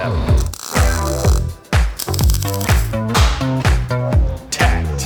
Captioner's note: weld zapping